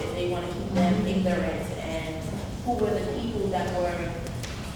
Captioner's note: none